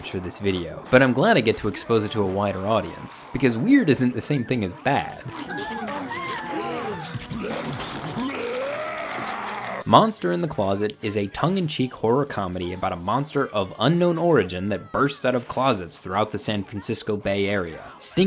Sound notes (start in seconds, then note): 5.7 woman wimping; 8.4 monster roaring